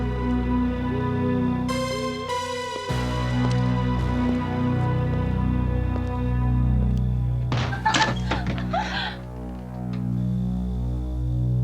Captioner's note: dramatic Music; door Opens; dramatic Music